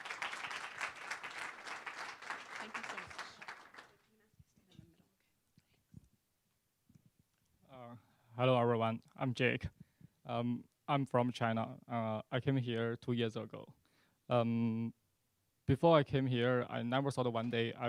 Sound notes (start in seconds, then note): 0.0 applause